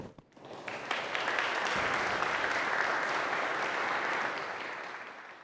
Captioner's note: audience applauds